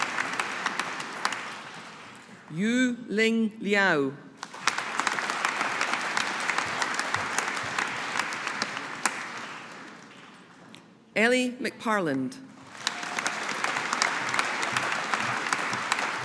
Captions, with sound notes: Yu Ling Liao. (AUDIENCE APPLAUDING) Ellie McParland. (AUDIENCE APPLAUDING)